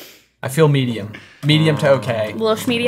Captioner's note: groaning